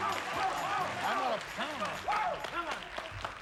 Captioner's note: cheering